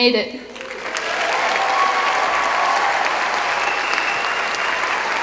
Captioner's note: applause